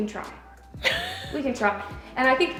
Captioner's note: laughs